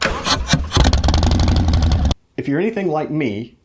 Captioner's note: engine roaring